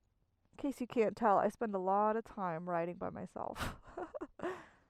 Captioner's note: laughs